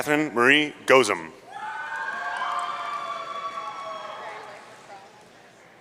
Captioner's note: audience cheering